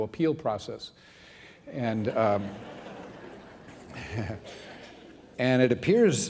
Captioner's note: laughter